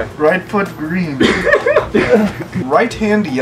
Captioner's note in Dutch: Gelach